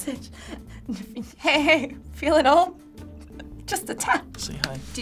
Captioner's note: chuckles